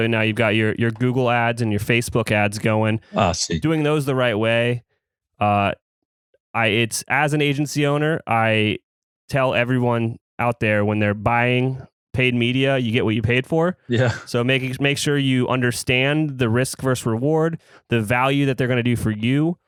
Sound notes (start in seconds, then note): 13.9 laughs